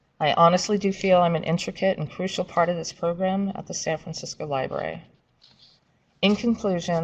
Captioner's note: papers shuffling